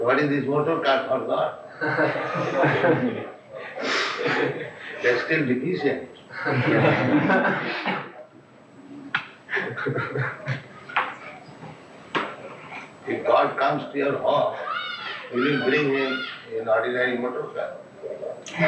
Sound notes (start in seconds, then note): 5.4 laughter